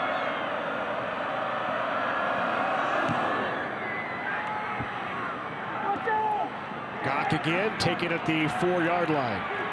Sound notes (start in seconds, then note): 5.9 indistinct fan shouts